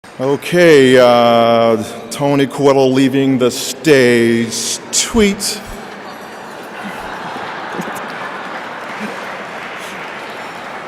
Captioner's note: laughing